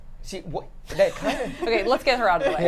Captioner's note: laugh